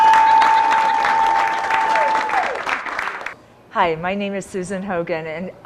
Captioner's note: laughter, Cheers